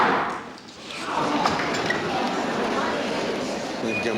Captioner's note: chattering